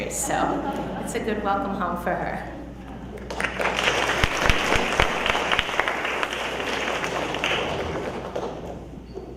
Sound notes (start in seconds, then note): 3.2 audience applauding